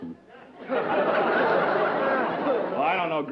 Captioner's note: laughter